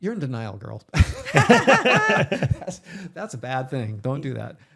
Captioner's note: both laughing